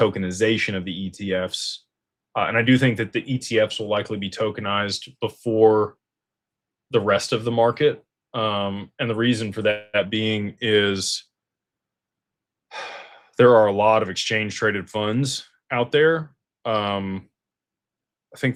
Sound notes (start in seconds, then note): 12.7 sighs and gasps